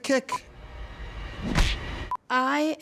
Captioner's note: kick smacks